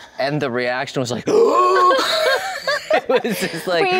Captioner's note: screams